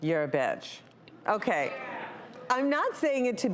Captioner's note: audience agreeing